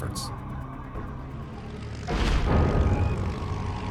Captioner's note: engine roaring